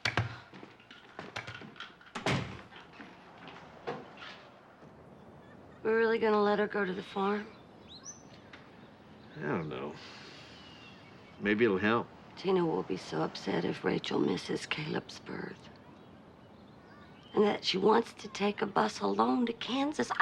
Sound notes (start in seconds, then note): 1.1 door closing; 9.4 sighs